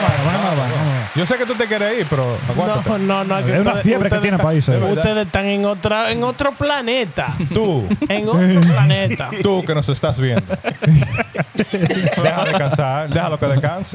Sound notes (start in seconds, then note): 0.0 applause; 1.0 speaking In Foreign Language